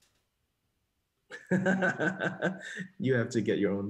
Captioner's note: laughs